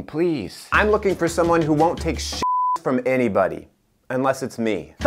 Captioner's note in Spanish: beep